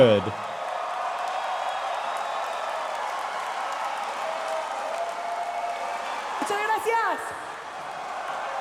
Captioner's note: cheering